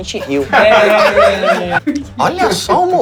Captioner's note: risos